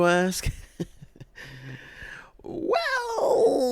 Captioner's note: awkwardly laughs